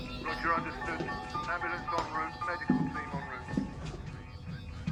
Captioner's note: man over radio